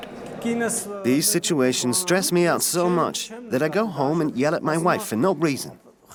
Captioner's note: voiceover